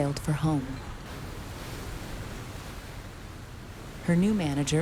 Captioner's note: waves crashing